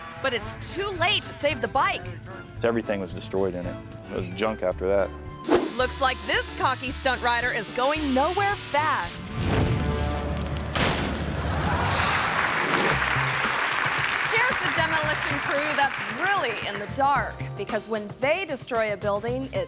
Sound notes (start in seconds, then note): 9.3 flames whooshing; 11.3 audience laughing and clapping